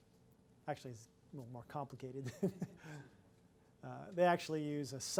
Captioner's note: laughs